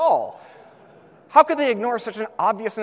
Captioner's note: audience laughs